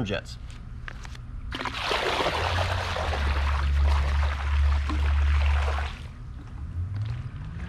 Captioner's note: pouring water